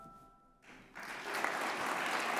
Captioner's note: audience applauds